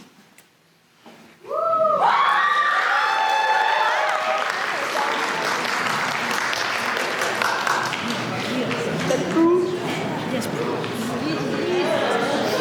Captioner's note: applause